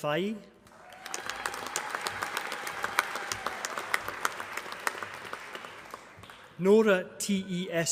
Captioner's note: applause